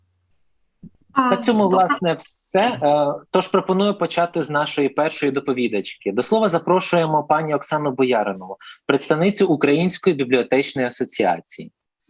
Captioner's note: foreign Language